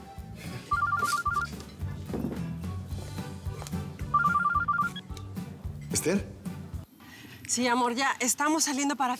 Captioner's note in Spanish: Suena el celular